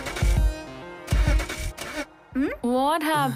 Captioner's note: igniting the car